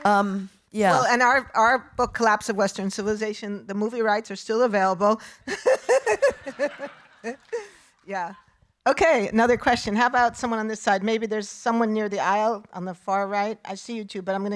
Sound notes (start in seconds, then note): 5.6 laughing